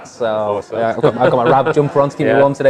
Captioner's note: laughs